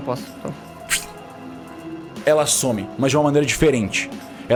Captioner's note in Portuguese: fush